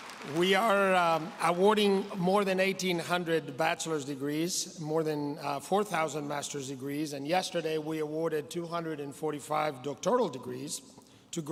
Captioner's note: applause